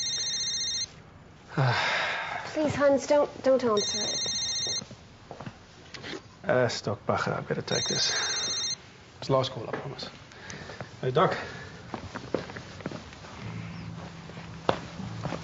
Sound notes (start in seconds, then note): 0.0 cellphone rings; 1.5 sighs; 4.5 ringing; 9.3 sighs